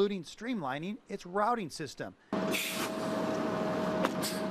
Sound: bus sound

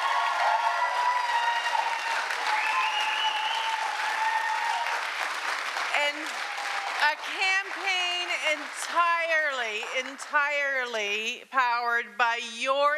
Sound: cheering and Applause

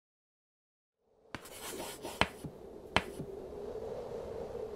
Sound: wind blowing

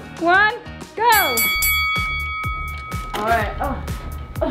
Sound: bell dings

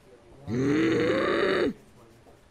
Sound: groans

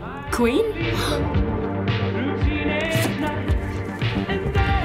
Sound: gasping

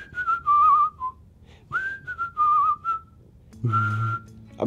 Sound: whistles

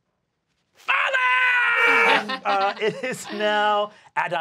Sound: laughing

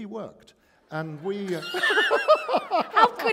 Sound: laughter

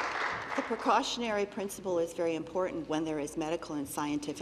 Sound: applause

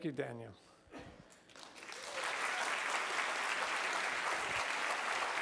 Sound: applause

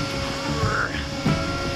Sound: HULK sound

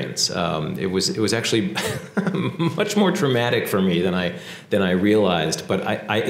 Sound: laugh

